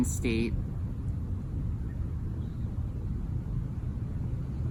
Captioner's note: birds softly singing along with squirrel chatter